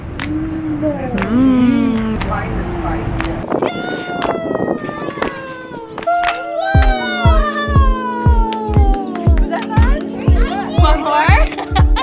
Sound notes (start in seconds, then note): 0.0 laughing; 0.4 mumbling in delight; 3.6 excited exclamations; 8.4 clapping; 11.3 laughing